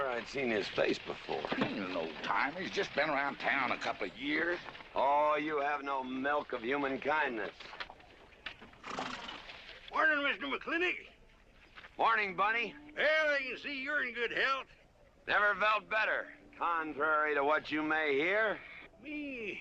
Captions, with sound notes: Wish I knew where I'd seen his face before. He ain't an old-timer, he's just been around town a couple of years. Oh, you have no milk of human kindness. (HORSE SNORTING) Morning, Mr. Mclintock. Morning, Bunny. Well, I can see you're in good health. Never felt better, contrary to what you may hear.